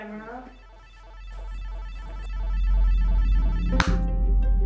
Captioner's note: electronic noise